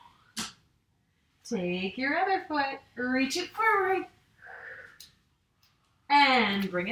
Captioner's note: exhales